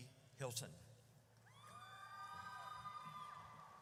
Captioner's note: audience cheers